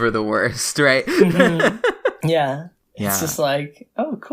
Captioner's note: laughs